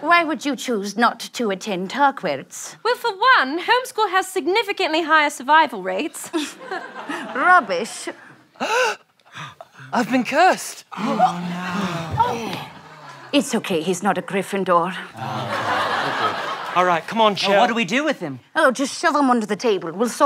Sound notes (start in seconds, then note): 6.5 scoffs; 8.5 gasps